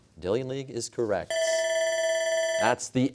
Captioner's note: bell ringing